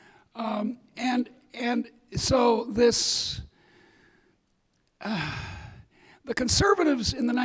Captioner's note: sighs